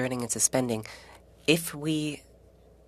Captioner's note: speaking French